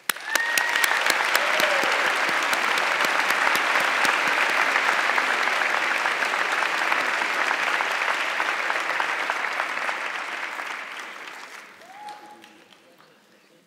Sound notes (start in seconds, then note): 0.6 audience clapping